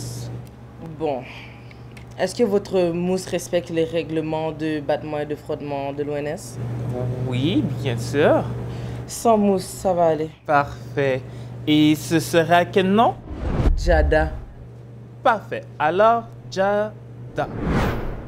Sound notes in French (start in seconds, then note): none